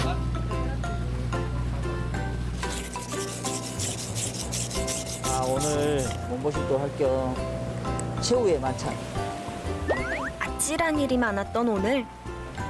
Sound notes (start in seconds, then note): 2.6 swish swish